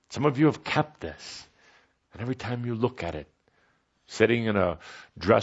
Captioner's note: none